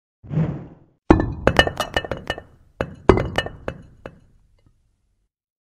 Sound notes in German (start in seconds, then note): 1.4 klirrende steine